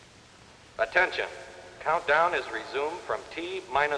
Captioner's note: man on PA